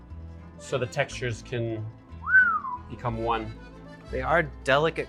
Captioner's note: whistles